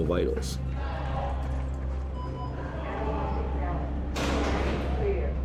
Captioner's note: voices chattering, machines beeping